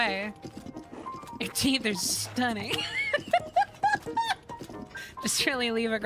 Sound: laughter

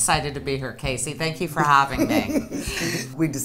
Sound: laughing

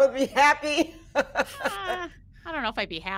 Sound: person laughing

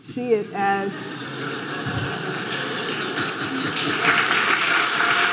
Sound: audience laughing and applauding

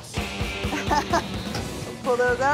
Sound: laughs

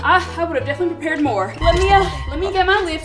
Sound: whispering

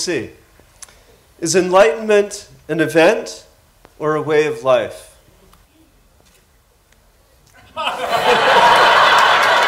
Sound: laughter

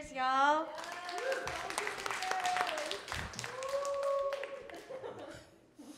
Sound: audience cheering and applauding

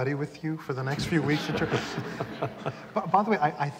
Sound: laughter

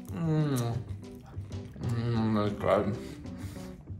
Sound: moaning

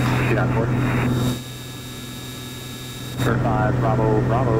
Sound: plane engine buzzing

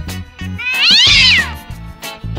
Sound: tabby Kitten Mewing

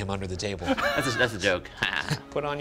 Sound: chuckles

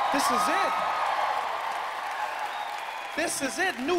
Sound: audience cheering; cheering continues

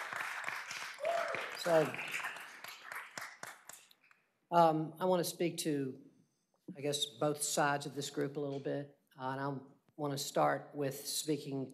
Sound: applause

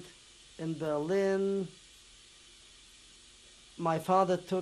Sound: pauses for 3 seconds

